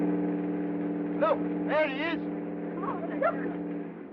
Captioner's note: exclaiming